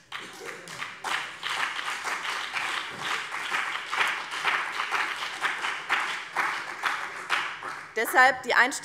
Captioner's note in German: Beifall BÜNDNIS 90/DIE GRÜNEN und vereinzelt CDU